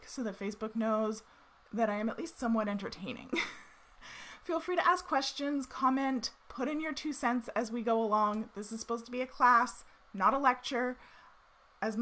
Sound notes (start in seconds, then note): 3.3 chuckles